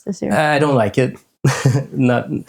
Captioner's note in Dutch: lacht